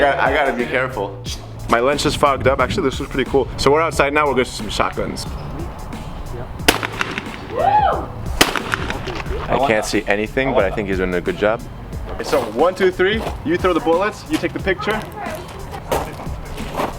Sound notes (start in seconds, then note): 6.7 gun fires